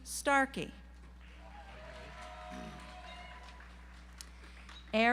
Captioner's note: audience applauds